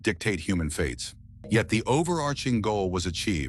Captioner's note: SFX: dramatic low bass